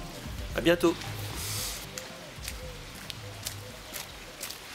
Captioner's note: footsteps moving away